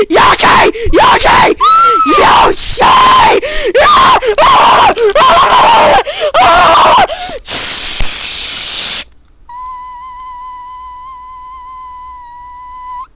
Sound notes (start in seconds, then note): 7.4 static